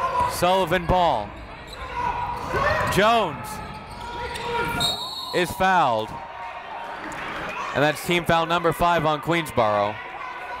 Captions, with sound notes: Sullivan ball. Jones. (whistle) Is fouled. And that's team foul number five on Queensborough.